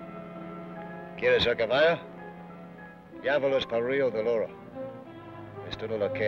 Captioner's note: Ben speaks foreign language